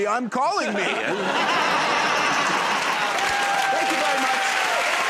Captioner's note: laughter